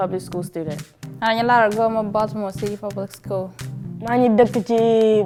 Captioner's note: speaking in a foreign language